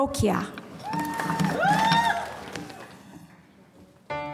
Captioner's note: applause